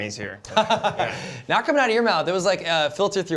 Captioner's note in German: kichert